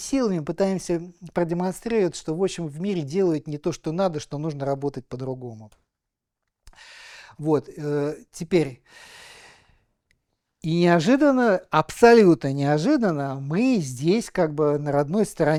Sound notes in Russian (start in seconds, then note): 7.9 тяжело вздыхает